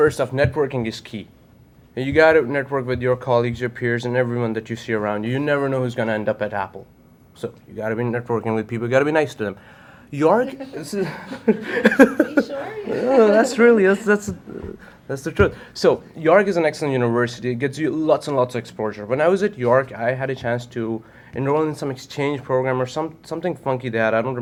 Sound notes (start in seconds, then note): 10.6 laughs